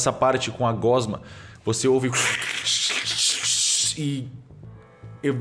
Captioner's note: bubbling